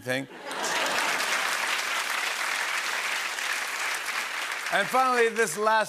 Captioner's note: applause